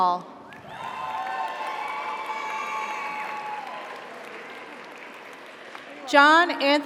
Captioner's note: audience applauds; audience cheers